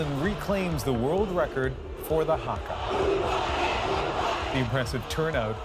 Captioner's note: chanting